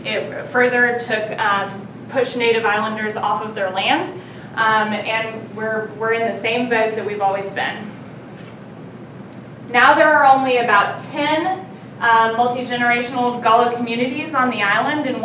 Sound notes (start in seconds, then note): none